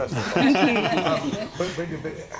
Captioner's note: panel laughing